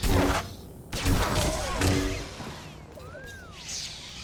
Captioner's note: gunshots